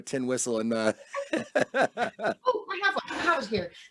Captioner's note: both laugh